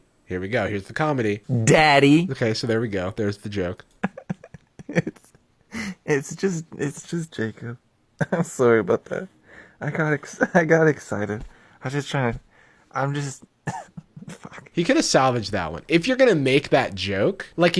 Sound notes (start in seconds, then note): 3.9 chuckling